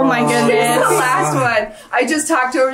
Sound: chuckles

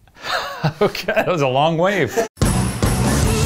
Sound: laughs; upbeat music

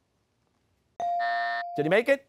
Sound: buzzer; ringer dings

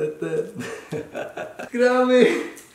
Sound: laughs

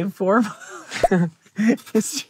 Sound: both chuckle

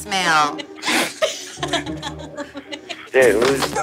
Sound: all laughing

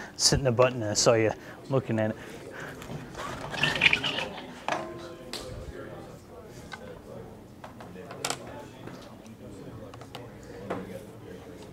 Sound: audience discussing

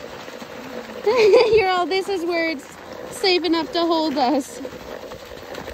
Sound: laughs

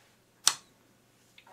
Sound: click

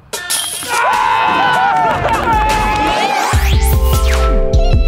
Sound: guys cheering

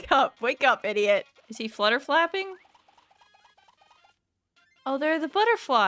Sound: vigorous polishing

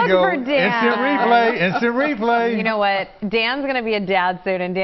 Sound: laughter

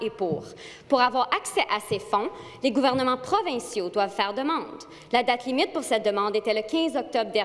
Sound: speaking French

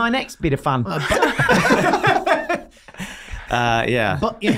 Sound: all laughing

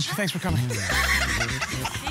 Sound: laughing

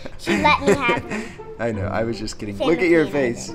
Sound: laughing

